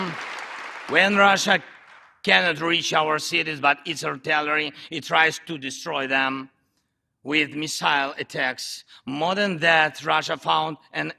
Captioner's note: applause